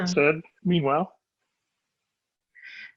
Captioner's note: speaking faintly